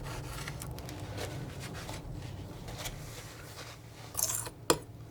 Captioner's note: scratching